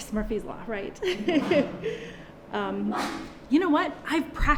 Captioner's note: she laughs